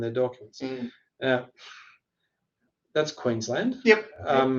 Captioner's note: scoffs